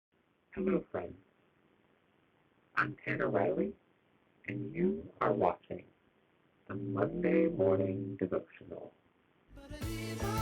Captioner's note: in a weird voice